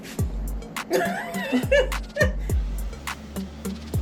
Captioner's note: laughter